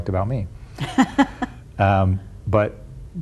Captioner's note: laughs